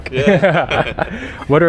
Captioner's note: chad laughter